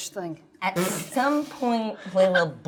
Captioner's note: laughing